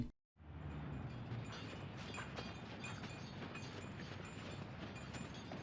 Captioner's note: bells jingling